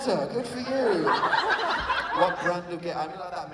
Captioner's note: laughter